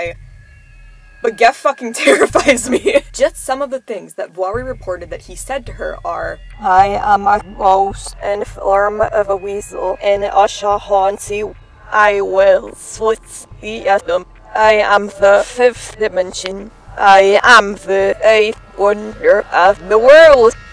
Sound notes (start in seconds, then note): 0.1 ominous music begins; 6.4 speaking with reversed audio